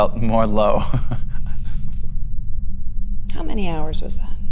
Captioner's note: laughs